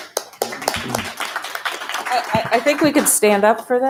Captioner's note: board members applaud